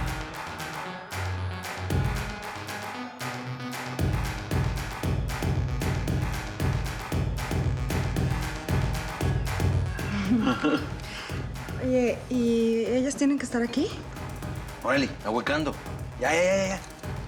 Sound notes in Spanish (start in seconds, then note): 10.1 risas